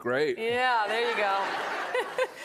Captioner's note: laughter